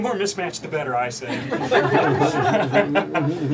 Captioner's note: laughter